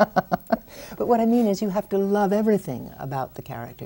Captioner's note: laughs